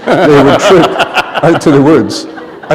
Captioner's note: laughter